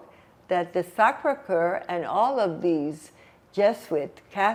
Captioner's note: french